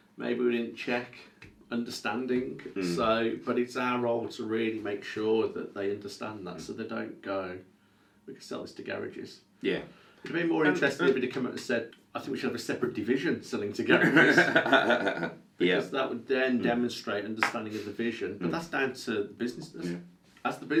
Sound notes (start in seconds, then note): 13.9 chuckles